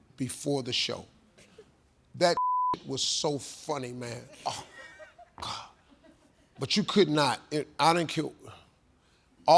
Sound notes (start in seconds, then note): 2.3 beep; 5.4 sighing